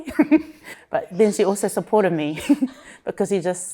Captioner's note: chuckles; chuckles